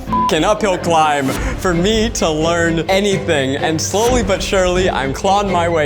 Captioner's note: beeps